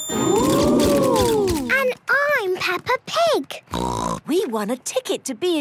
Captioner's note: snort